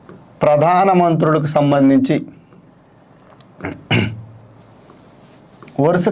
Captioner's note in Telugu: గొంతు సవరించుకోవడం